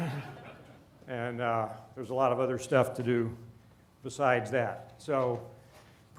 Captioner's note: laughter